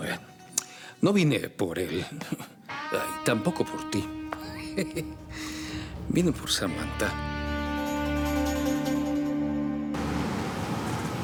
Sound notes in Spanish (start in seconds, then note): 7.1 Ríe